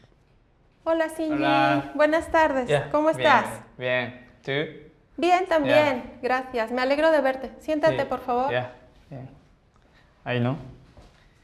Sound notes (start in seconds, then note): 1.9 both speaking Spanish